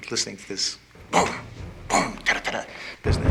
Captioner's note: imitates drumming